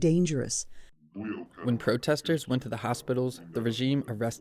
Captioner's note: through translator